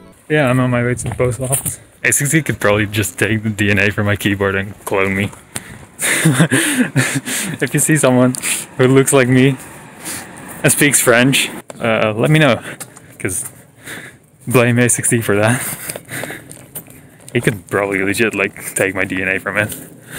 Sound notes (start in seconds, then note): 6.0 chuckles; 15.4 breathes heavily